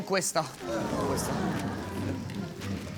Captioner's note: crowd protests